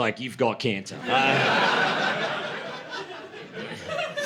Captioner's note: laughter